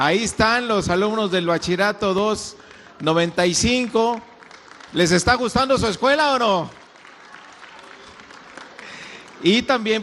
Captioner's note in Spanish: aplausos